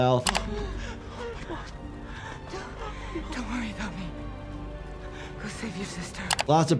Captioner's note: panting